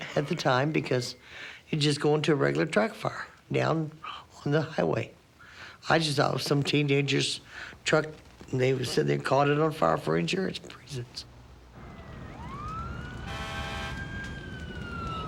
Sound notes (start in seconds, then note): 11.7 siren